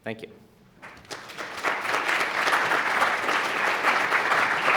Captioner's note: applause